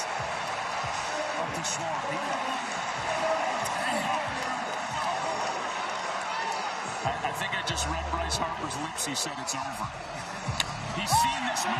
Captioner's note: cheering